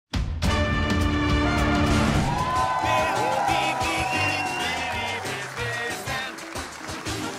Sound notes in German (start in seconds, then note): 0.3 Dynamische Musik; 1.8 Jubel